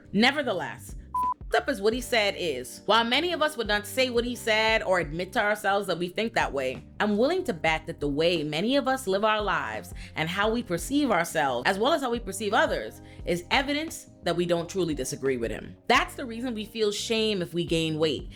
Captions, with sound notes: Nevertheless, (beep) up as what he said is, while many of us would not say what he said or admit to ourselves that we think that way, I'm willing to back that the way many of us live our lives and how we perceive ourselves, as well as how we perceive others, is evidence that we don't truly disagree with him. That's the reason we feel shame if we gain weight.